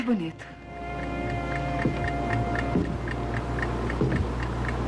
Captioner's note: clock Ticking